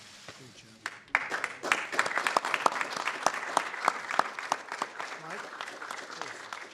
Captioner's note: applause